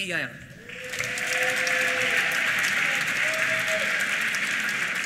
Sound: applause

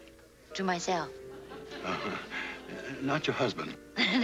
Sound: light laughter

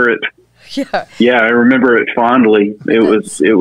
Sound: laughs

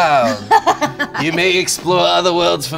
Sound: laughs

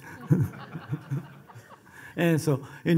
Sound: laughing

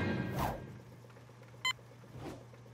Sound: beeping

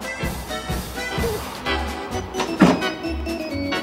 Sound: baby cooing

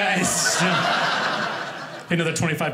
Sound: audience laughing

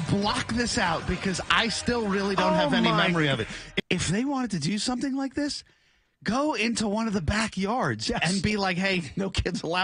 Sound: laughter

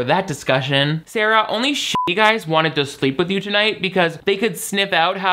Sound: beep

